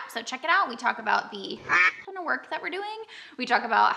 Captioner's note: duck quack